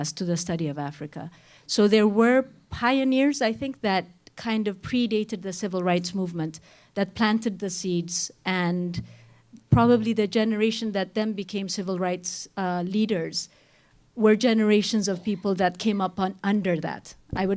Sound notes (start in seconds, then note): none